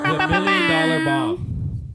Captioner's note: imitates air horns